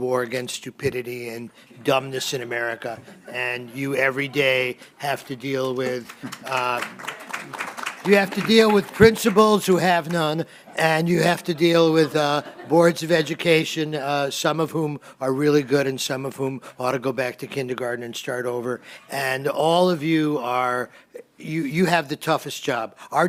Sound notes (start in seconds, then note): 5.6 applause